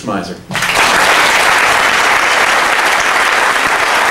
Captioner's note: applause